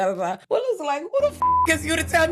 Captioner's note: beep